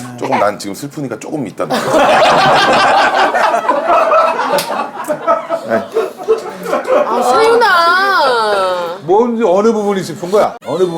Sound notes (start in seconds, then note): 3.4 crying